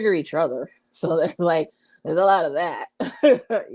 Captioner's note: laughs